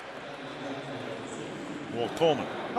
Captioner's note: pa announcement